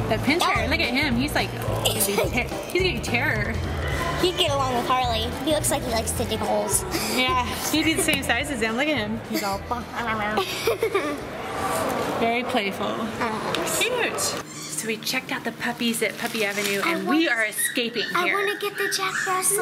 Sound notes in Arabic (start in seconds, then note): 10.4 ضحك